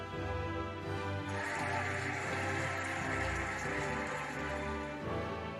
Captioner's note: cheering and applauding